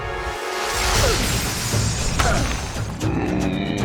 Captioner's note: grunting